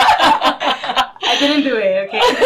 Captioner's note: laughing